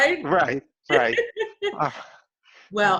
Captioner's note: laughs